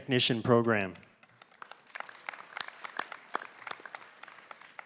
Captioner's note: applause